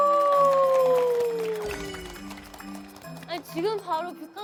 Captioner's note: clapping